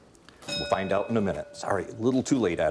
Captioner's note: bell dinging